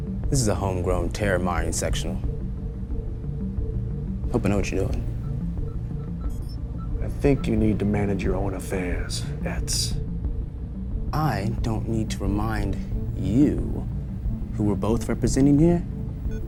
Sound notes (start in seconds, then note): 6.1 machinery beeping; 6.1 tense music